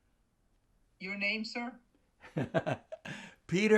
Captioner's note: laughing